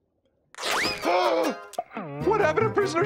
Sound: gasping

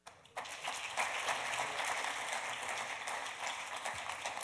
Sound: audience applauds

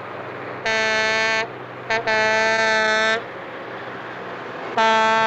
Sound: semi-truck horn blaring

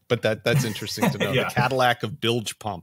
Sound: laughs

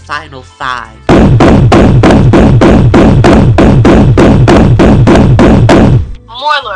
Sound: thunk

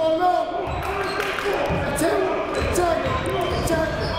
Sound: clapping

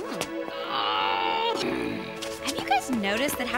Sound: growls

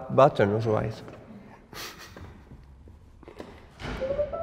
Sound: laughs

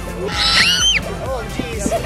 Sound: screaming

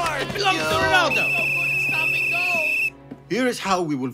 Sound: shouting; whistle blow

